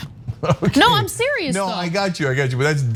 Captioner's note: laugh